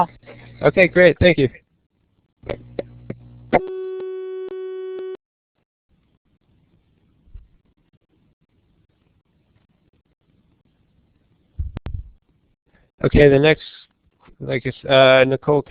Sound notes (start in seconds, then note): 8.2 pause